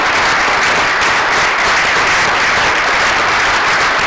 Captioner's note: applause